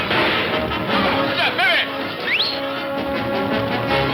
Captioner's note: whistles; suspenseful orchestral music